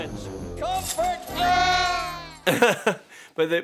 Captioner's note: both wail